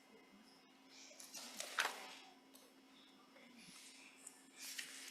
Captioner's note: paper rustling